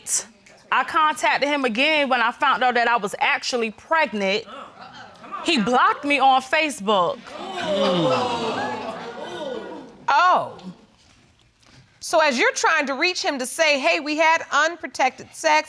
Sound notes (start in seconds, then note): 7.2 audience exclaiming